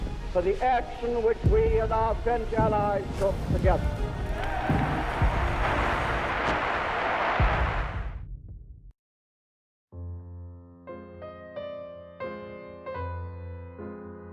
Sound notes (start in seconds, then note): 4.1 audience applauding; 9.9 solemn piano music